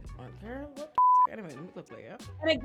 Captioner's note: beep